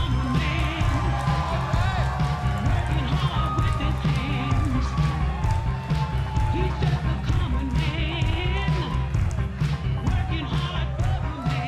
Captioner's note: crowd cheering